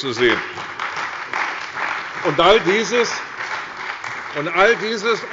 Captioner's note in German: Beifall bei der CDU und dem BÜNDNIS 90/DIE GRÜNEN